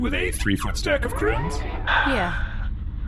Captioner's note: Nermut sighs